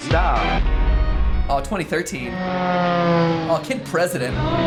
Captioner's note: plane engine roars